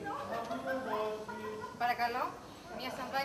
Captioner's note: γέλια